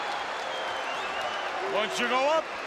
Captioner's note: crowd cheering